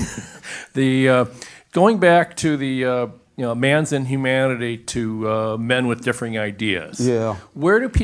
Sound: laugh

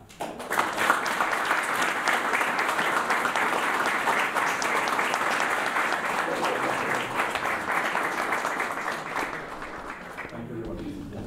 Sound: applause

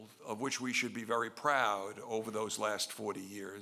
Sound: none

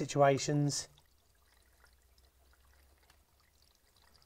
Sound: water running

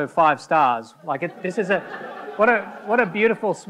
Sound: audience laughing

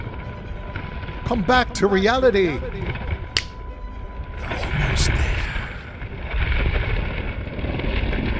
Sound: snap

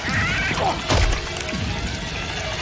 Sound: hits the ground

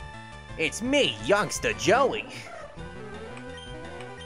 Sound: Joey Wheeler voice

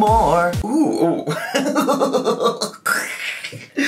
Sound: laughing

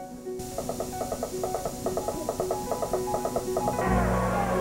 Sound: toy horse bouncing

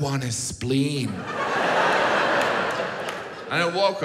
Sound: audience laughs

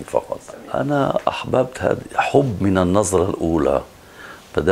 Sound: Arabic

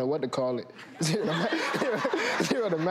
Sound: laughing

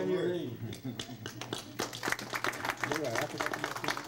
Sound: applauds

